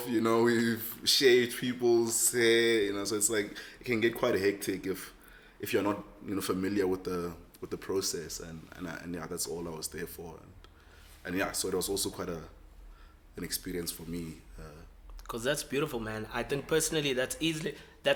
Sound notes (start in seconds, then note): none